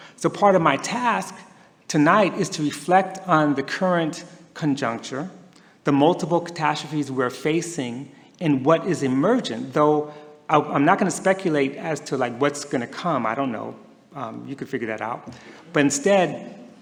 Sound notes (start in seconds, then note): none